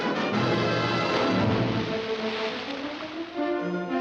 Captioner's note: big splash